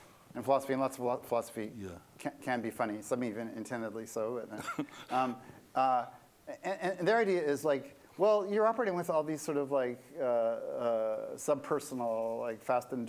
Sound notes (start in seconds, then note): 4.5 laughter